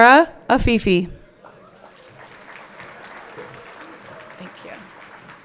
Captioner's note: everyone clapping